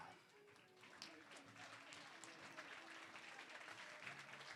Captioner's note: applause